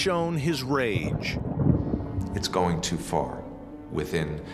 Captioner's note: thunder rumbling